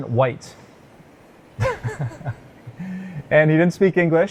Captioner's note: laughing